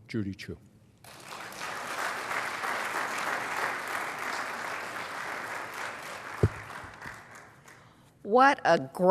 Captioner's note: applause